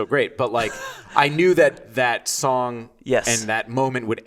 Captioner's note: laughing